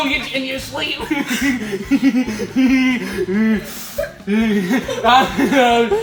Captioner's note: laughter